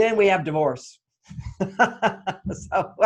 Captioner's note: laughs